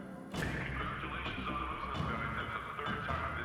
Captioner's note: loudspeaker